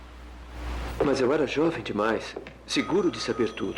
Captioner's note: phone Rings